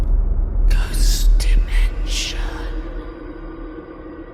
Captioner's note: ghostly Voice